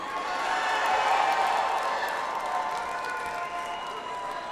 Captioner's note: audience applauds